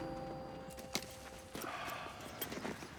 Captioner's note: exhales